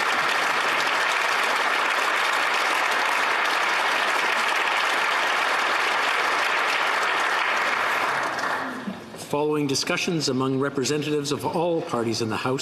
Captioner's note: applause